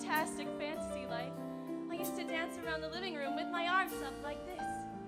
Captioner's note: none